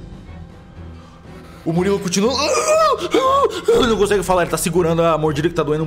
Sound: sounds of pain moans

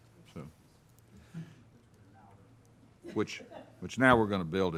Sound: people chattering

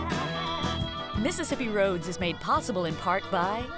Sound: voiceover

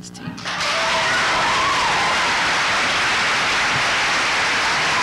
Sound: applause

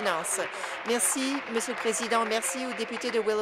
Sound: applause

